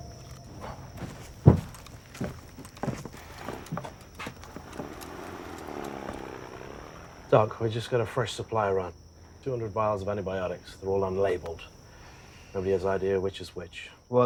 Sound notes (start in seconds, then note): 3.2 motor whirring